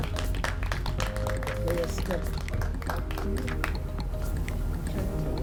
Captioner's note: applause